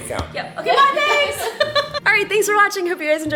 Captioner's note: laughs